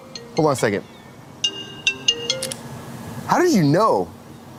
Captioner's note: phone ringing